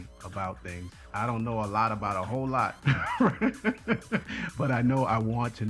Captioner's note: laughs